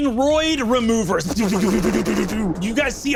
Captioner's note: vocalized laser shots